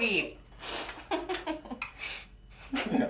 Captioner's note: Stef giggles; Evan sniffs